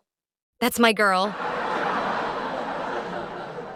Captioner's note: crowd laughs